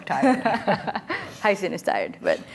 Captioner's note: all laughing